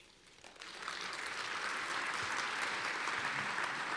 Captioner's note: applause